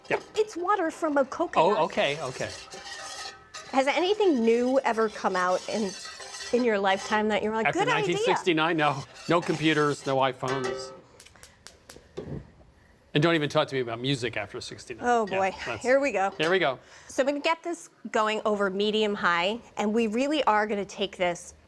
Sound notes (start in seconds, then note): 14.8 sighs